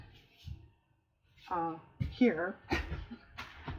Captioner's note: laughs